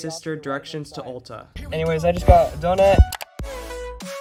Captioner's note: more mouse clicks